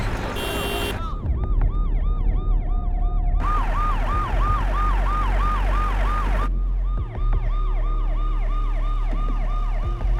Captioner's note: police siren blaring